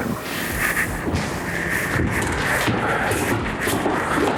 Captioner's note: feet stomping